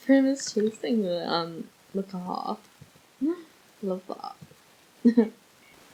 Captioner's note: laughs